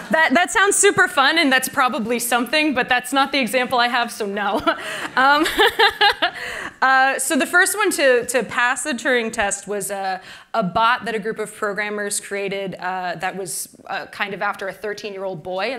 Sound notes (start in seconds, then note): 0.0 laughter; 4.5 laughter